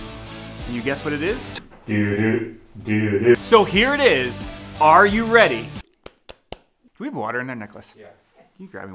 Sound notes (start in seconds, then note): 5.8 slapping